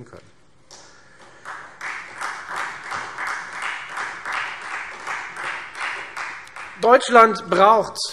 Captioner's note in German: Beifall Freie Demokraten